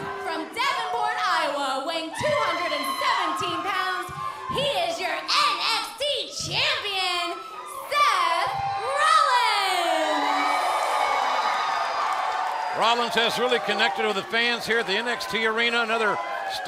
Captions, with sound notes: >> HIS OPPONENT, FROM DAVENPORT, IOWA, WEIGHING 217 POUNDS, HE IS YOUR NXT CHAMPION, SETH ROLLINS. >> [CROWD CHEERING] >> ROLLINS HAS REALLY CONNECTED WITH THE FANS HERE AT THE NXT